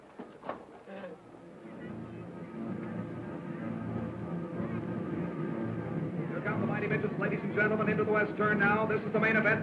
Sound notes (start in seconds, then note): 1.6 cars revving; 1.6 dramatic music